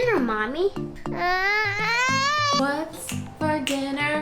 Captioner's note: wailing